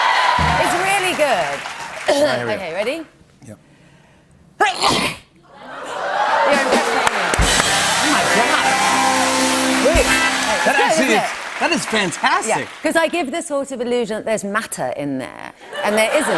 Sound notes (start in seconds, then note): 1.2 coughs; 4.6 sneezes; 5.8 cheers and applause